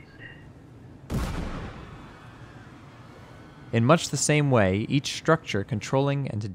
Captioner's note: explosion